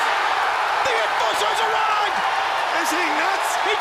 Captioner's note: crowd cheering